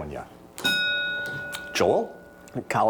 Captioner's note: bell dings